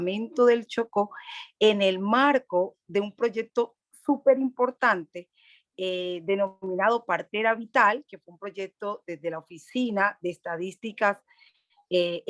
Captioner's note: Spanish language